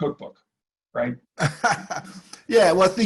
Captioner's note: laughing